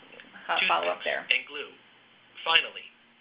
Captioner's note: male Voice